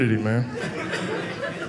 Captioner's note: audience laughing